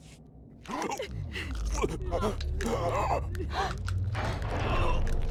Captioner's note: grunting